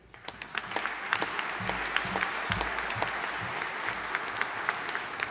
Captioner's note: audience applauding